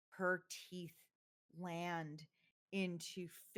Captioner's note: none